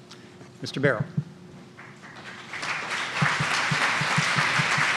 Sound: applause

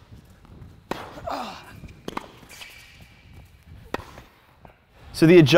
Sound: racquet hitting ball

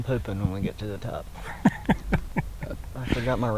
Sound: laughing

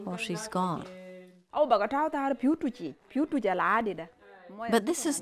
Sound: speaking in Sudanese language

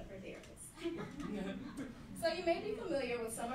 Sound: laughing

